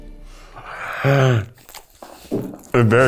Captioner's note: exhales